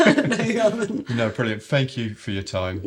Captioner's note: laughter